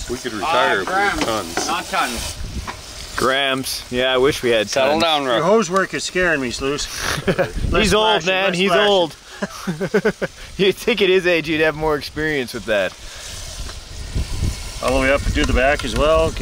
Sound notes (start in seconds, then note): 9.2 laughing